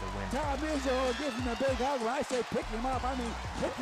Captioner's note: audience cheering